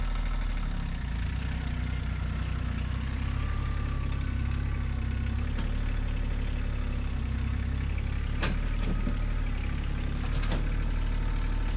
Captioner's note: motor rumbling